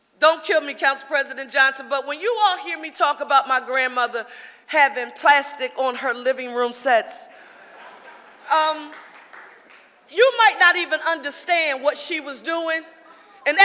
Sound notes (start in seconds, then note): 7.4 audience laughing